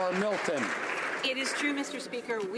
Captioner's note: some Applause